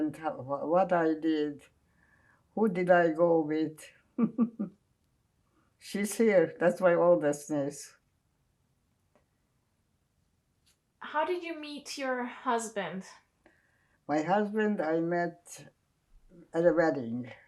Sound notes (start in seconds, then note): 4.2 laughing